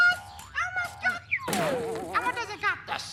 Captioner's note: crash